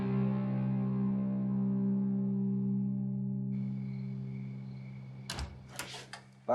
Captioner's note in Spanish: sonido al abrir la puerta